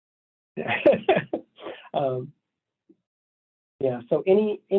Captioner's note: laughs